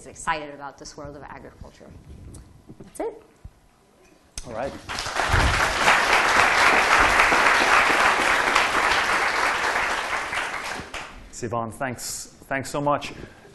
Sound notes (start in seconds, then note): 4.8 applause